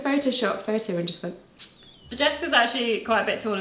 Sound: lips squeaking

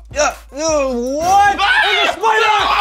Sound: screams

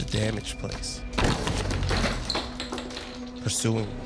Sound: objects scattering

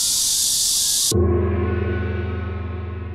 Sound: real Cicada sound; gong

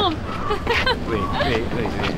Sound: emma giggles

